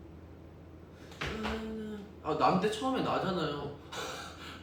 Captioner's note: humming